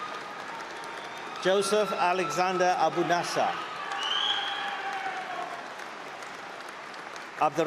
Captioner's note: applause